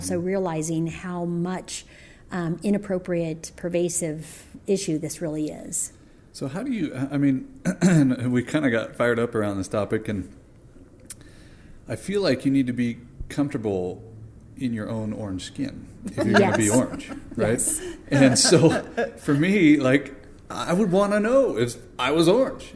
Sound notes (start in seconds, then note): 7.6 clears throat; 16.0 laughter